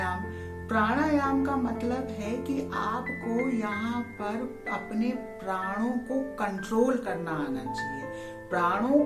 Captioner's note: breathe